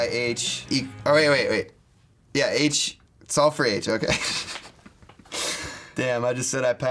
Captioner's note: laughs